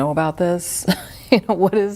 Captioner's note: laughs